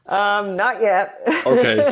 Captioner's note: laughs